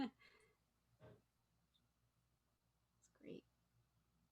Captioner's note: laughing